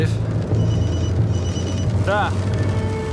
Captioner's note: phone ringing